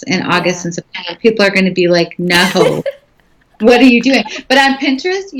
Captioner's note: laughing